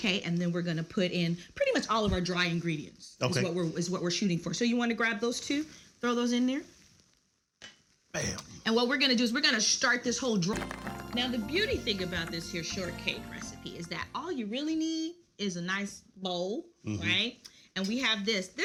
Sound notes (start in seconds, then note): 10.6 audience applauds